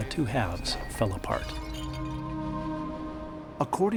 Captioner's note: jug shattering